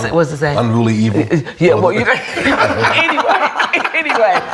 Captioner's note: all laughing